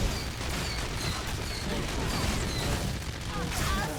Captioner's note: gunshots